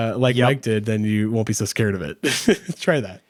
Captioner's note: chuckles